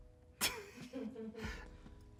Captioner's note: and crew laugh